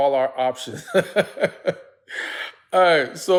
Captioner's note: laughs